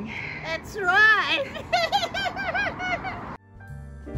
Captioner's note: laughs; background music